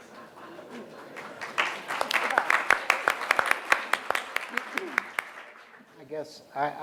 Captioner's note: applause